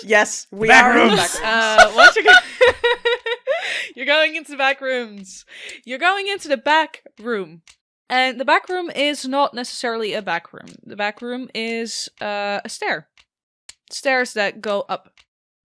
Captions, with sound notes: Yes, we are in the backrooms. The backrooms! [Laughter] You're going into the backrooms! You're going into the back room. And the back room is not necessarily a back room. The back room is a stair. Stairs that go up.